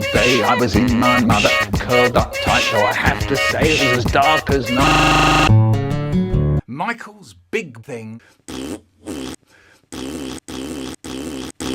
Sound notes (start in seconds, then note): 4.8 music Stuttering; 8.4 Michael Making Mouth Fart Noises; 9.8 reversed Mouth Fart; 9.9 forward and Reversed Mouth Farting